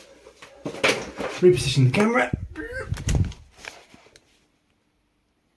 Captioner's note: page tears